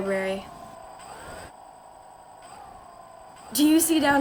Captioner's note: engine whirring softly